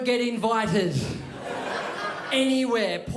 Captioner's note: crowd laughs